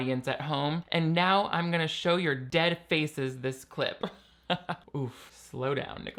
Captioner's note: laughs